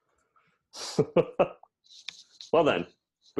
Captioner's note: laughs